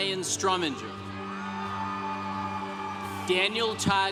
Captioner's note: congregation cheering